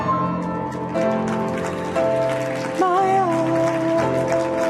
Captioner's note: audience applauds